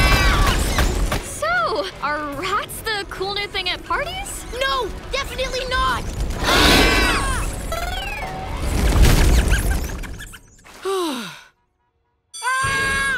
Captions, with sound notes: So, are rats the cool new thing at parties? No, definitely not! [screaming] [squeaking] [sighs] [screams]